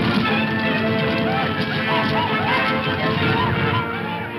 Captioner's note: whooping; upbeat dramatic music